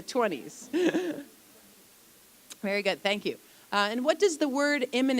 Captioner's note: chuckle